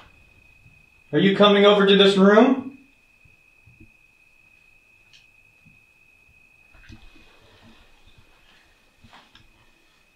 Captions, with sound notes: Are you coming over to this room? **(Footsteps continue)**